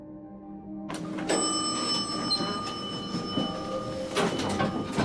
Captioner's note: elevator dings